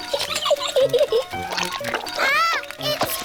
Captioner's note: giggles